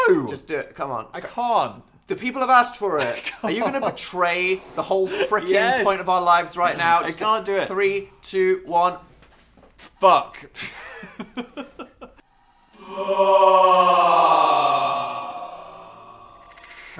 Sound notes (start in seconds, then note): 3.0 laughing; 10.6 laughter